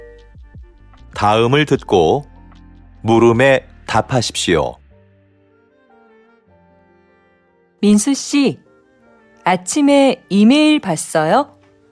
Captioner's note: Korean audio